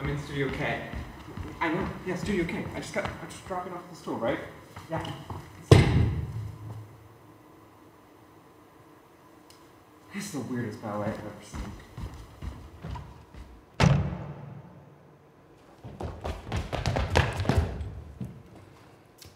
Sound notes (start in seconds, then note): 11.5 footsteps stomping; 13.8 door slams; 15.7 footsteps stomping